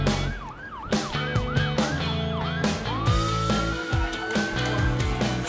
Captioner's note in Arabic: صفارة الإنذار لسيارة الإسعاف